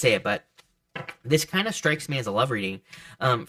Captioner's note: cards thud softly